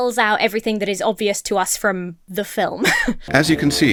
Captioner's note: Emma chuckles